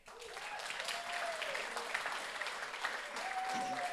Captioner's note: audience applauds